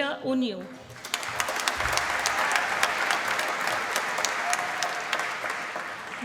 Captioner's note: applause